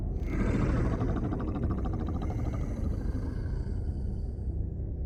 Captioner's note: roar